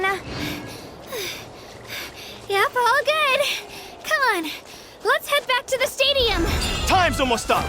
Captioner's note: panting